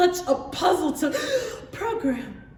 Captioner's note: gasp